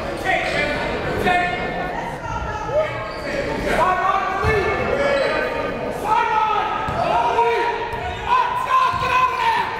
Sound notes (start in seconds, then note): 0.1 yelling and cheering; 2.7 fervent cheering and yelling